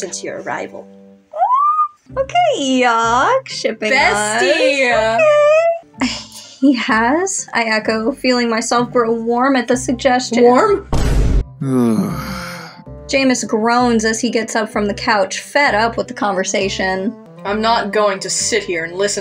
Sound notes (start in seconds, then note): 1.4 giddy Squeal; 10.9 Vine Boom; 11.6 Jæmis Groans